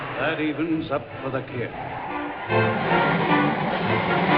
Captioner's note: tires screeching